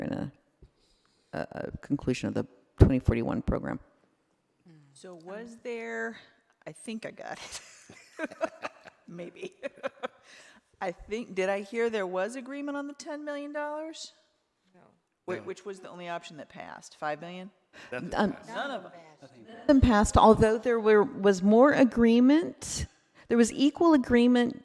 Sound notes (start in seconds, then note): 7.8 laughing